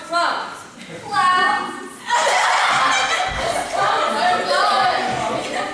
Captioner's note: everyone laughs and fools around